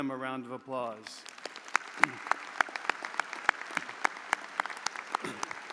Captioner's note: audience applauding